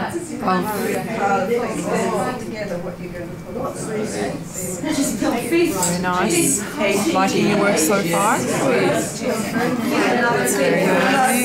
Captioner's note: audience chatter